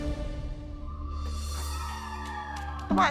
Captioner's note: cheering